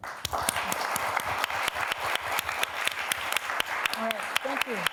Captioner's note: applause